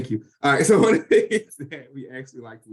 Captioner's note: laughs